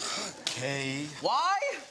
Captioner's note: audience laughs; scoffs